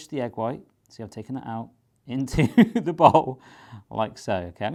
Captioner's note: laughs